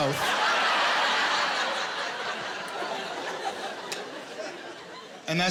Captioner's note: laughter